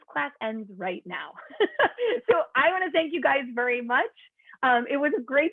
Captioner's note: laughter